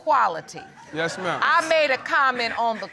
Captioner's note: audience laughs